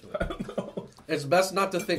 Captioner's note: laughing